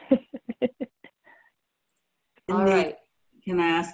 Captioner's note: chuckles